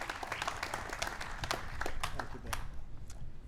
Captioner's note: applause